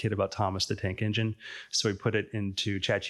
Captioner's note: none